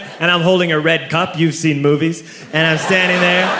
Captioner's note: comedic laugh here